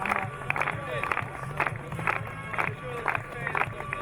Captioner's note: crowd clapping